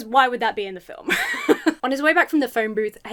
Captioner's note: laughs